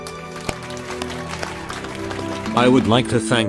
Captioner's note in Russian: аплодисменты